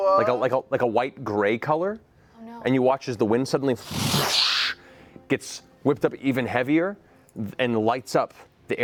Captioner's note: whoosh